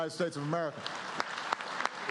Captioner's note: applause